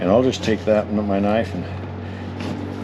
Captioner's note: thunk